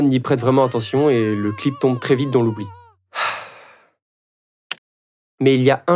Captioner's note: sigh